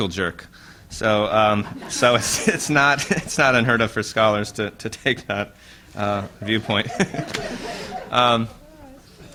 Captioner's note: laughter